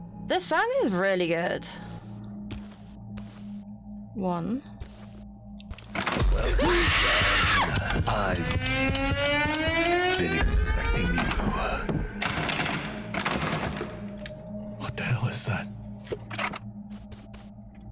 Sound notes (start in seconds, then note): 6.4 screaming noises